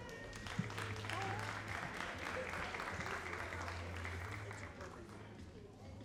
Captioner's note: all applauding